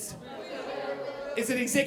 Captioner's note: audience chattering